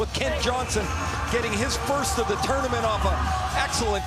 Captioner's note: cheering and Applause